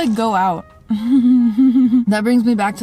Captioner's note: nervous laughter